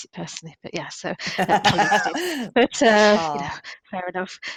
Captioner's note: laughter